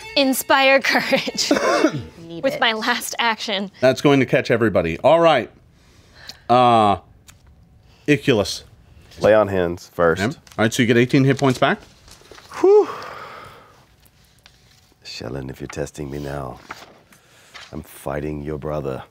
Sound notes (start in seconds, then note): 0.0 violin hums; 12.4 sighs